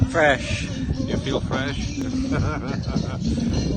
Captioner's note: laughter